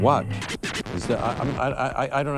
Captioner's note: record scratches